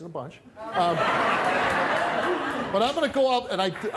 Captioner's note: audience laughing